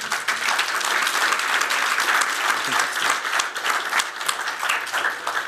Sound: applause

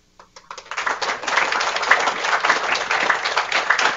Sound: applause

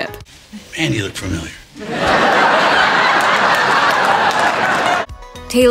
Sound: audience laughter

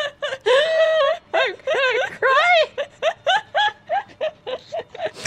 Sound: laughter

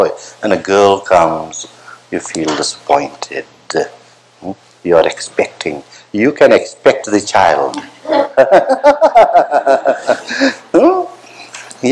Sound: laughter

